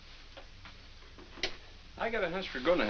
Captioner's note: radio clicks off